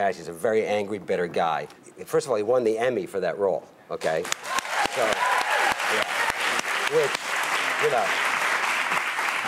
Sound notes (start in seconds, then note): 4.1 audience clapping